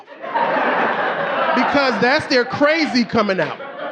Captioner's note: audience laughing